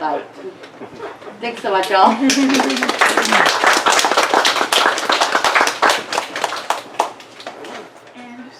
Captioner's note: audience giggles and applause